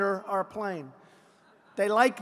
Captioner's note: laughter